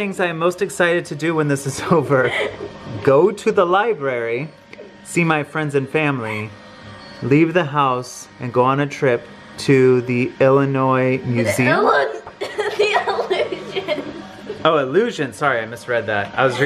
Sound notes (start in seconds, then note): 12.2 laughs loudly